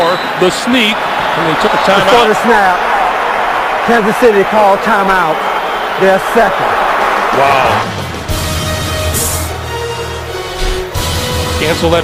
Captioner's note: crowd noise